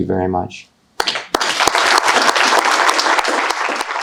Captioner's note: audience applauding